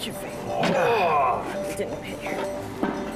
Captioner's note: grunts